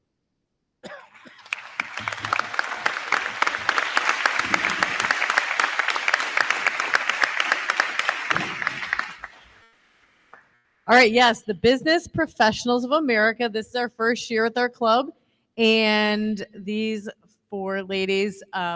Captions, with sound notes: (crowd cheering) (crowd clapping) >>All right yes. The Business Professionals Of America. This is our first year with our club. And these four ladies